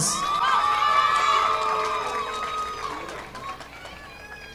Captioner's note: audience applauding